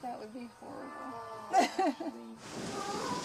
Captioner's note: laughs